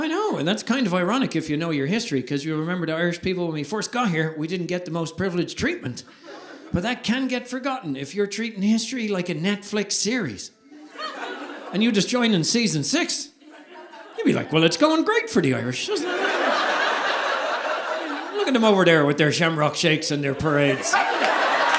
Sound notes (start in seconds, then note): 15.8 audience laughing